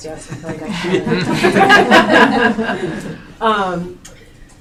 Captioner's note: laughing